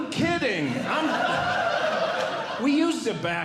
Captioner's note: audience Laughing